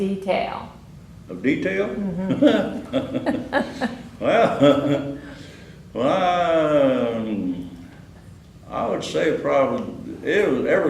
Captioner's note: laughter